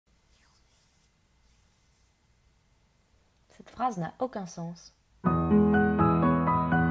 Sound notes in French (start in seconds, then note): 0.1 silence; 5.3 musique du générique